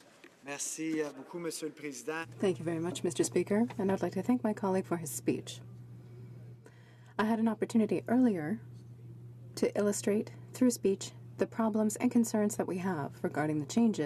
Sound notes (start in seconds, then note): 4.7 speaking French